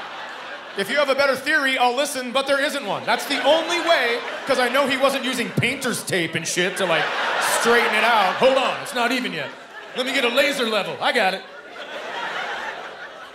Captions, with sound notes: If you have a better theory, I'll listen, but there isn't one, that's the only way... 'Cause I know he wasn't using painter's tape and shit to, like, straighten it out. "Hold on, it's not even yet. Let me get a laser level, I got it." [laughter]